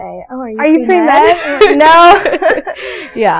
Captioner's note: laughing